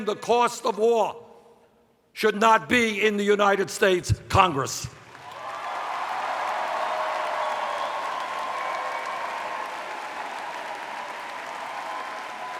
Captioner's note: cheers